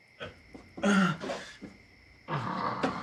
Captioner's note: groaning in pain